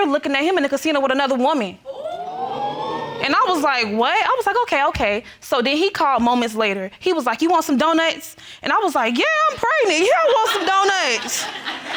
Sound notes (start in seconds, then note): 1.8 crowd wooing